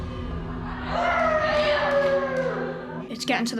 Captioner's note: inmates talking and yelling